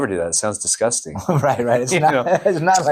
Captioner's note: laughs